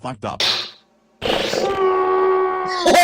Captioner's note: growl